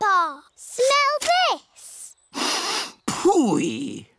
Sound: sniffs

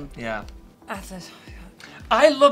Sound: Alexa trails off

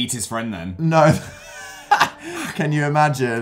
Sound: laughs

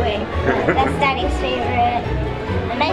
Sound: laughing

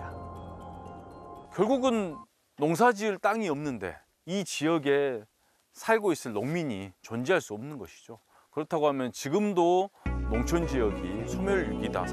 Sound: voiceover

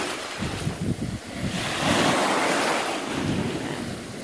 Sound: sound of waves crashing

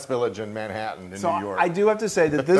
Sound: laugh

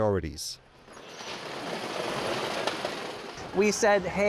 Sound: conveyor roller rattling

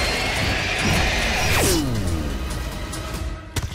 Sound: screeching

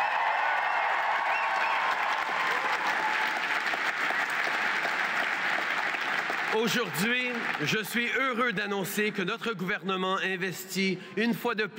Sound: cheers & applause

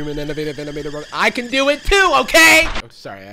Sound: kettle whistling

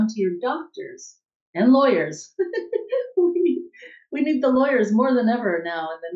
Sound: laughing

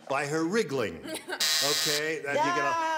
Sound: buzzer sounds

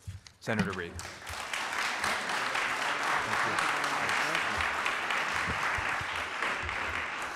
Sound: applause

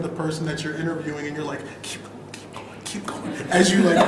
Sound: whispers

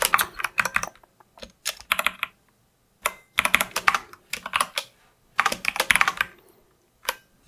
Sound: typing

